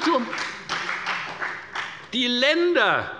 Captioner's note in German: Beifall bei der FDP